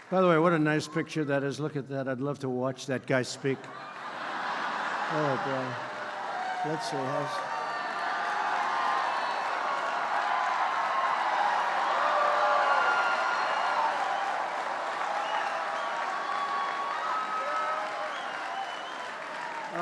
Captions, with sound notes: By the way, what a nice picture that is, look at that. I'd love to watch that guy speak. (Laughter.) Oh, boy. That's a --